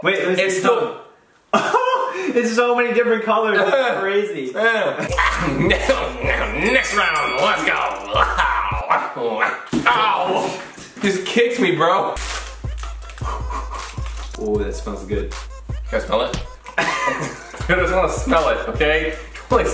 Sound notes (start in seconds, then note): 5.0 growling sounds of disgust; 8.1 barking sounds of disgust; 12.2 paper crinkling; 16.6 laughing